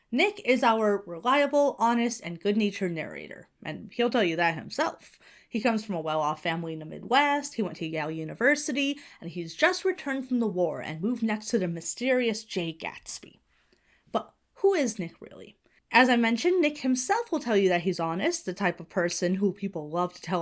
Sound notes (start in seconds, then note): none